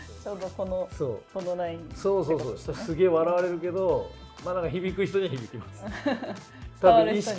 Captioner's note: laughs